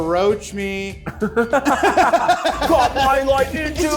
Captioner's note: laugh